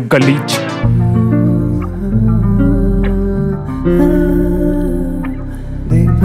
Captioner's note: humming